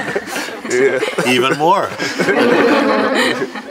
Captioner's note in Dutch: gelach